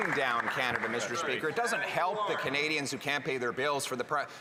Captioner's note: some Applause